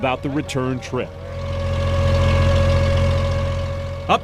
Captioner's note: boat motor running